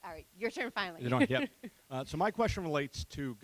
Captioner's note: laughing